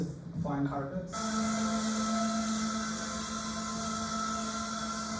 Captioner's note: drone sound